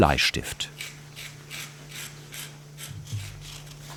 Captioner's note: scratching noises